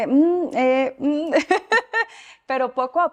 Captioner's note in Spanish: Risas